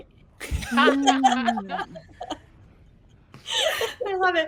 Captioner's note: everyone laughs